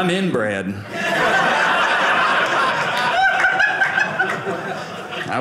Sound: audience laughing

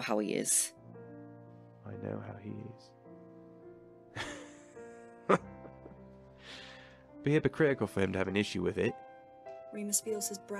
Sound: forced laughter

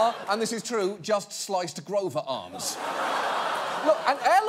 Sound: audience laughing; audience laughing

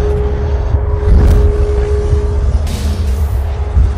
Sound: whoosh

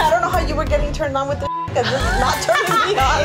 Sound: beeping

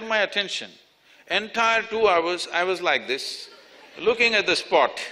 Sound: laughter

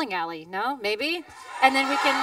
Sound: cheering, applause

